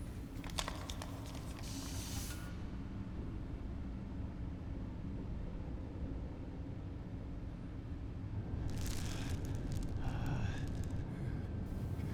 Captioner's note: air hissing